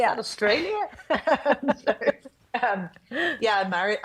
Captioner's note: both laughing